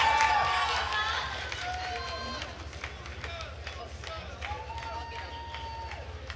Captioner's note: attendees cheering and applauding